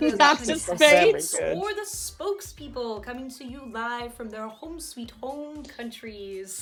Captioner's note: Sketch audio plays